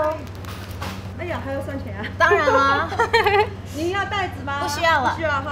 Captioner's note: speaking foreign language